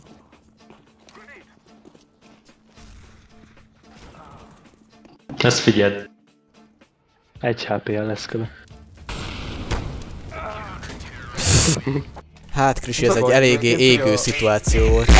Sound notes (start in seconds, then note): 11.4 pfff